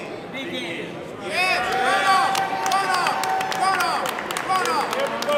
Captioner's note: audience cheers